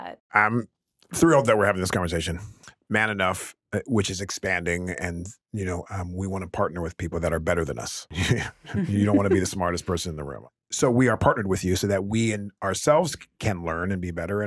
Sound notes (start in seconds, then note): 8.2 chuckling